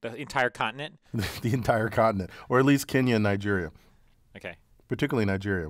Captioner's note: laugh